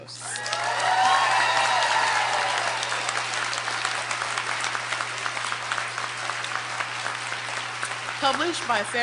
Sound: applause

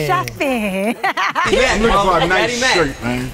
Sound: laugh

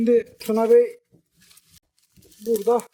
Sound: cracking sounds

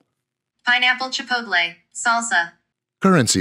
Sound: computerized voice

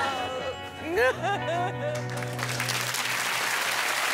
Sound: crying

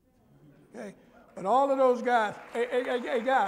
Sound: applause

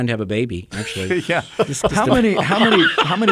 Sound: group laughing

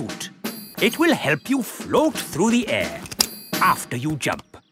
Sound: clicking

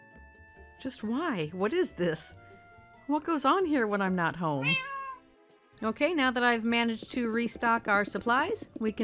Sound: meow

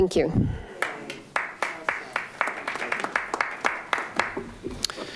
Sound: audience applauding

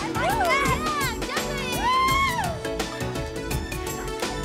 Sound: cheering

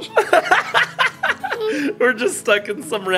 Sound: laughs

